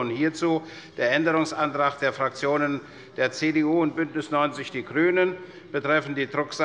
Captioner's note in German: none